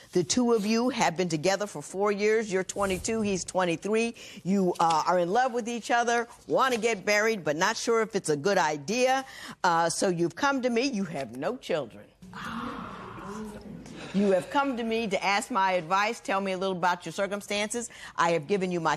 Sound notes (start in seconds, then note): 12.3 gasps; 12.3 spectators murmur